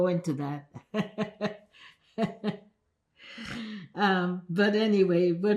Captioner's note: laughing